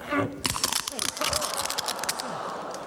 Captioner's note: loud crunching sound